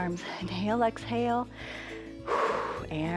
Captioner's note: inhales and exhales